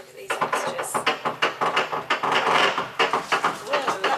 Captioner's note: lift makes funky bumpy creaky noises